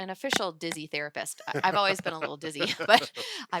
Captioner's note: laughing